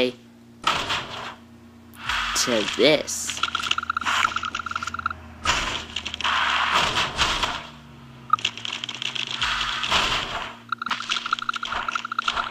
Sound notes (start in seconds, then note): 5.4 car thumping; 9.9 thud